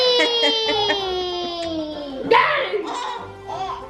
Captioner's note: laughs